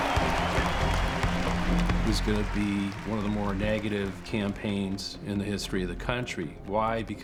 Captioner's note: crowd cheers